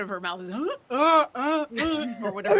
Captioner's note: mimics seal barking